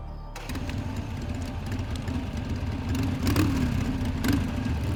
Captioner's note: motorbike revving